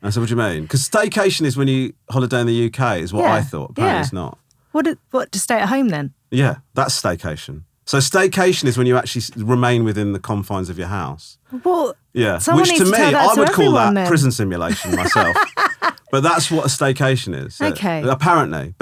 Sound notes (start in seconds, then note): 14.6 laughing